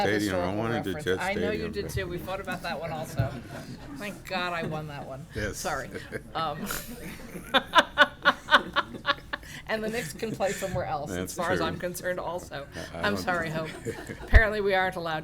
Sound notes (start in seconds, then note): 9.6 laughter